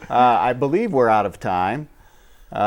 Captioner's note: laughing